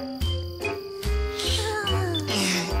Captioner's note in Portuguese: suspiros